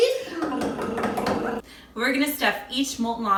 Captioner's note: taps table